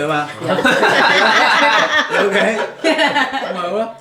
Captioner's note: laughs